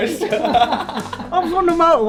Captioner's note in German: Lachen